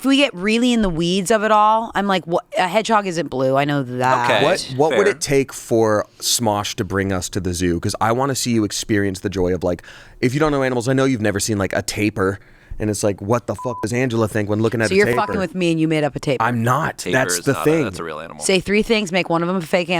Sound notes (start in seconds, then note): 13.6 beep; 15.6 beep